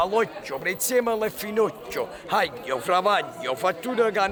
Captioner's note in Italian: parla in napoletano